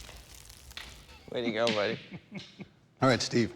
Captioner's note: chuckles